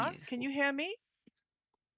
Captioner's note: speaking in French